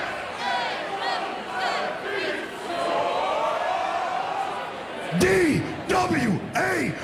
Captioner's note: crowd shouting